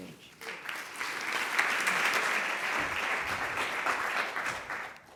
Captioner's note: applause